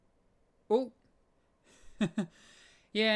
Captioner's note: chuckles